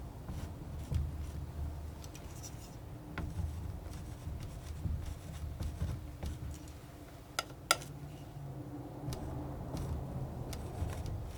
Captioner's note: tapping